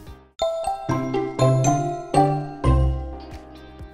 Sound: logo chiming; bright upbeat music

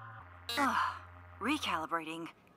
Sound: sigh

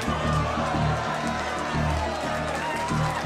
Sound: applause

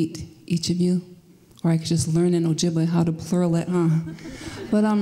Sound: laughter

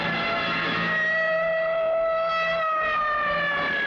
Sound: police siren blares

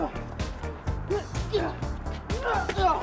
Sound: fight sounds

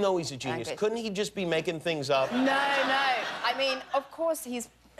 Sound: laughter

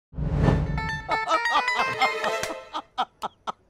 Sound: laughing

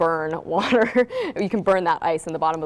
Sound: laughs

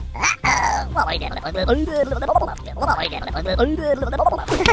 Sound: grumbles

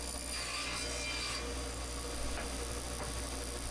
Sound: saw buzzing

